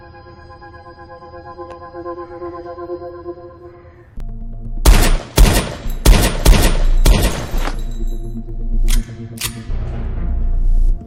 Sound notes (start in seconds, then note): 4.8 gunshots; 8.8 gun loading